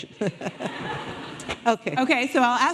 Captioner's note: audience laughing